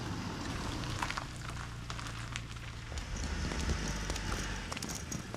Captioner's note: car engine rumbles